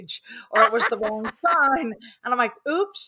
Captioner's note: laughing